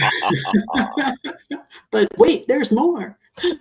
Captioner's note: participants laughing